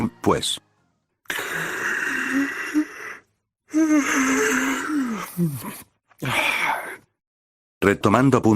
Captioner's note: sound of boredom